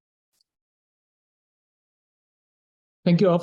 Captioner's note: pause; silence